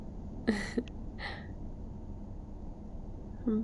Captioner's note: laughs